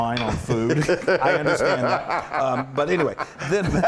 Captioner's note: laugh